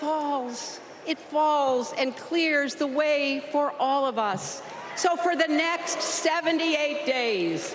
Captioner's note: applause